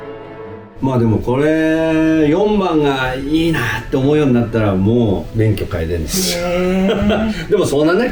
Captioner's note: laughs